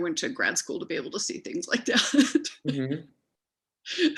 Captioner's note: laughs